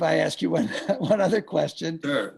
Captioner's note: chuckles